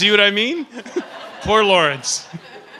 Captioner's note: laughter